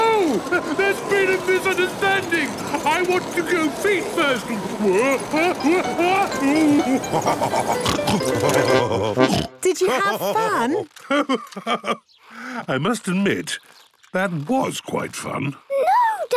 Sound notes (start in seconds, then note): 5.0 shouting; 5.9 laughing, snorting